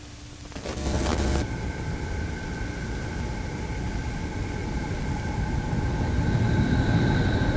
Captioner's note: static hissing; eerie ambient music